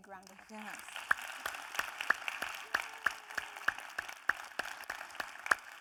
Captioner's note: audience applauding